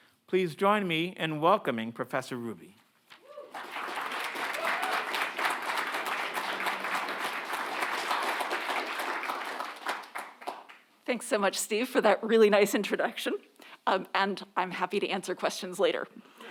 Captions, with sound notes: Please join me in welcoming professor Hruby. (audience cheers and applauds) - Thanks so much, Steve, for that really nice introduction, and I'm happy to answer questions later.